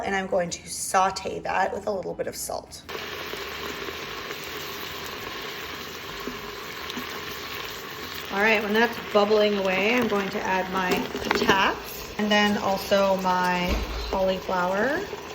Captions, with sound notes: and I'm going to saute that with a little bit of salt. (sizzling) all right, when that's bubbling away I'm going to add my tats, and then also my cauliflower.